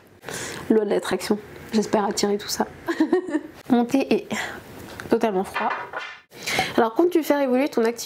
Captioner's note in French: rires